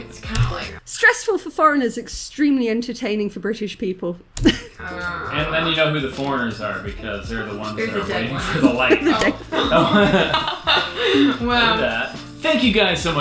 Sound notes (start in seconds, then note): 8.6 chuckle; 11.7 laughing